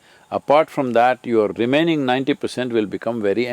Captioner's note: none